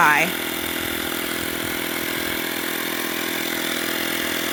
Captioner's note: motor roars